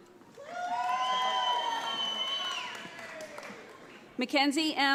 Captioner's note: audience applauds